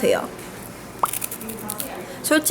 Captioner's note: Crunch